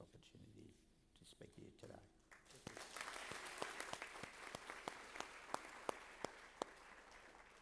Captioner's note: applause